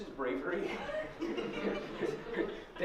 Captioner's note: laughter